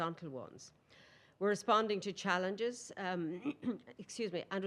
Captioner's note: clears throat